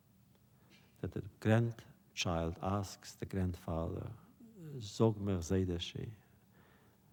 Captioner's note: Yiddish